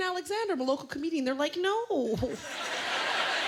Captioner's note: laughter